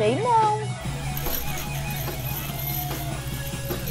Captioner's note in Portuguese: Barulho de corrente